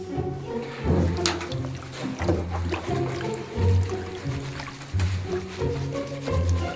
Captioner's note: upbeat music; scrubbing sounds